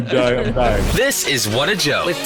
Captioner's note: chuckling